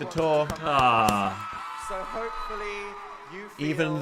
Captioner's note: audience cheering